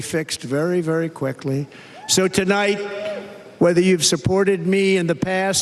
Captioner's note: cheers and applause